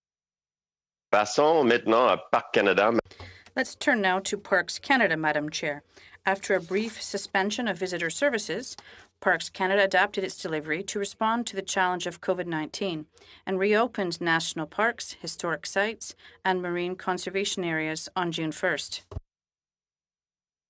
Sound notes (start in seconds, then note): 5.1 speaking french